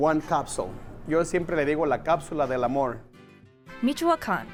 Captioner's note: in Spanish